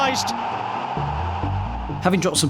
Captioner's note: crowd erupts